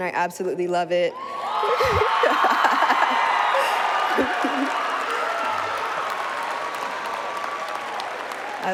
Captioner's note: cheering